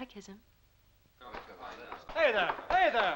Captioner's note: voices clamoring